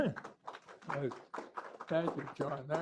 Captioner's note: applause